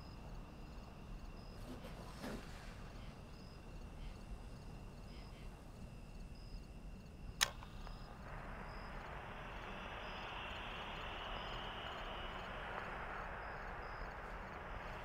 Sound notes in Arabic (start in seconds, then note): 4.1 نقرات الزر; 6.5 حشرات تغرد على شريط كاسيت